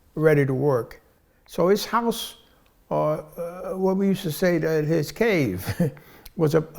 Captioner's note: heh